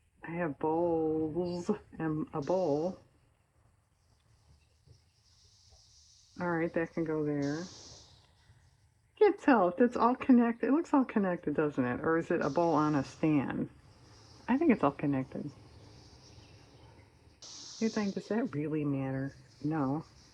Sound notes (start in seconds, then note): none